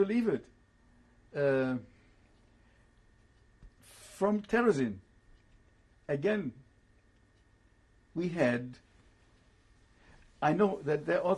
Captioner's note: pauses for 3 seconds